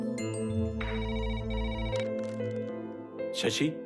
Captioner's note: phone rings